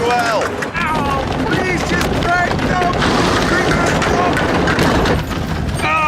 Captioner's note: exclaims